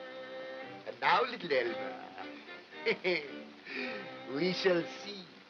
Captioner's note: chuckles